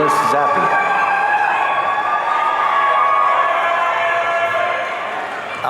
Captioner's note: audience cheering